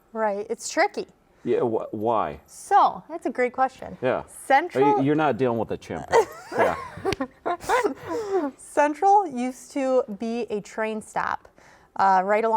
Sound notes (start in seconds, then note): 6.1 laughing